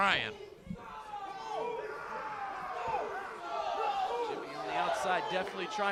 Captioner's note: crowd cheering